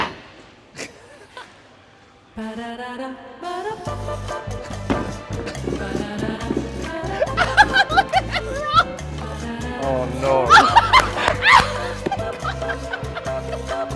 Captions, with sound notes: (laughing) (playful music) (ball rolling) - Look at it roll! - Oh no. - (laughing)